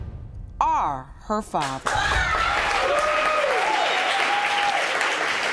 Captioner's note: cheers and applause